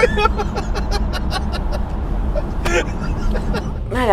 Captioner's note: giggles